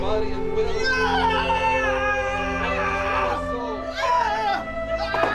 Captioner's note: screaming